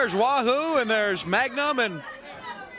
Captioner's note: crowd cheering